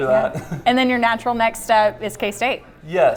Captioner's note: laughs